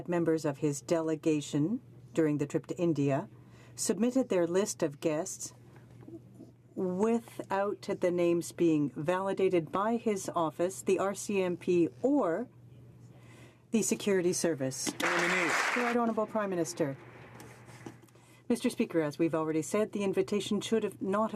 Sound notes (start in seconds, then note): 18.0 some Applause